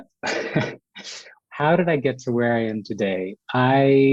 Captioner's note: laughs